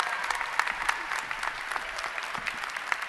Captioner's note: applause